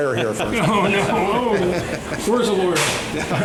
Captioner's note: laughter